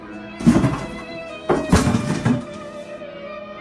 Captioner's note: body thumps